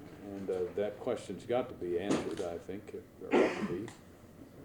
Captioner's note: off camera, loud bang and coughing